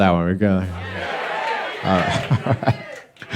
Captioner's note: crowd